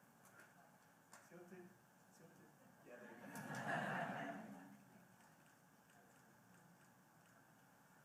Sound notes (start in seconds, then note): 3.0 laughter